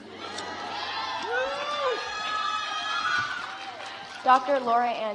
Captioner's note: audience applauds